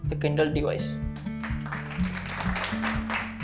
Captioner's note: crowd clapping